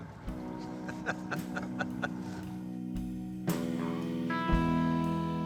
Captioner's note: laughs; happy music continues